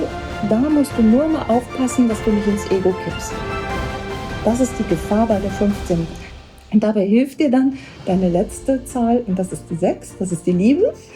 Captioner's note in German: spricht in einer Fremdsprache